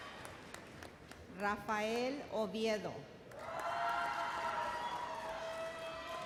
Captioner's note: audience cheers